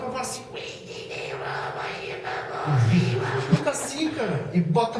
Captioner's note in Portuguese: voz aguda grunhida